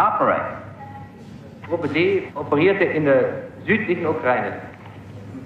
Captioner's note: speaking German